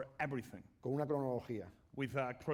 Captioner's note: speaking spanish